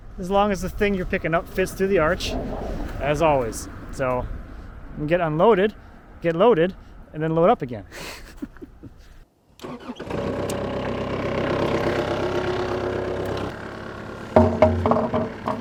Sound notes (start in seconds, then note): 7.9 laughs; 10.0 engine rumbles